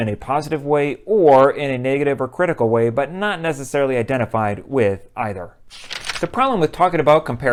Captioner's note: page turning